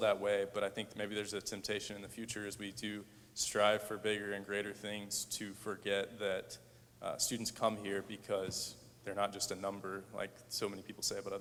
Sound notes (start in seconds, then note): none